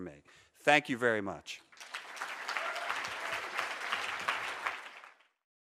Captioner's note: audience applauds